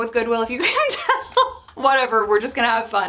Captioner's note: laughs